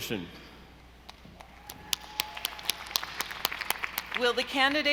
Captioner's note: audience applauding